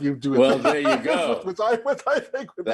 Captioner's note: laughing